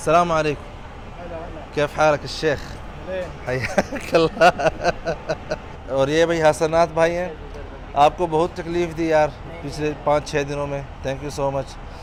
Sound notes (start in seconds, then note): 1.7 Arabic